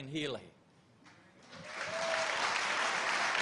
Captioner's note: applause